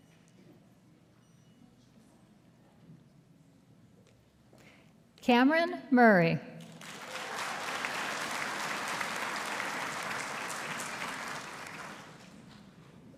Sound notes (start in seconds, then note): 6.7 audience applauding